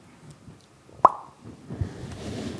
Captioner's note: pops